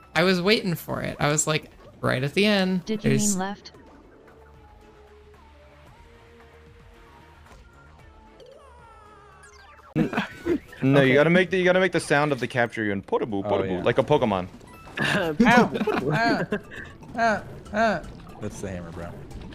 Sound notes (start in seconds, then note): 10.0 wild laugh; 14.9 throat clear; 15.0 laughing; 15.3 throat clear